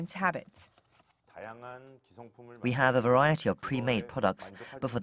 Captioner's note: Korean